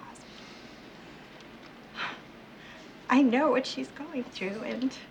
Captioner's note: exhales